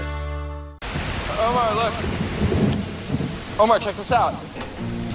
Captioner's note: thunder rumbles